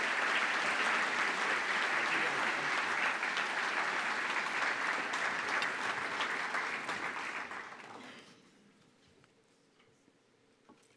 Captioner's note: applause